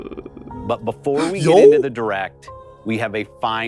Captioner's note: gasp